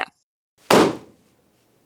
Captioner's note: balloon pops